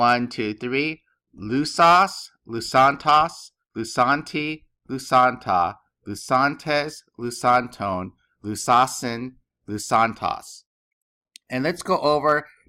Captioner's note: speaking greek